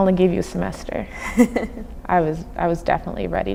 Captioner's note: laughing